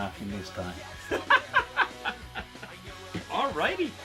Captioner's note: laughs